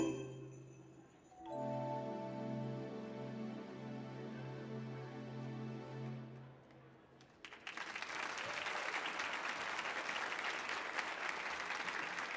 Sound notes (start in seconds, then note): 1.4 orchestra continues playing; 7.1 audience applauding